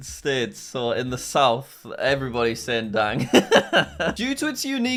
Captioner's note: laughing